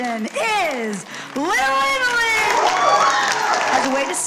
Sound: audience cheering

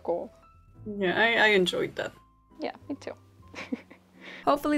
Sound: both laugh

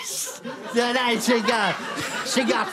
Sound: mild corpsing

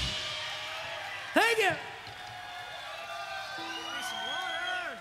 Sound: crowd cheering

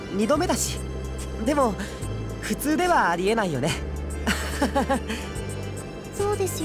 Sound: awkward laugh

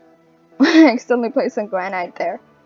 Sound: laughs

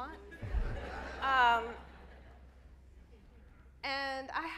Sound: audience laughs

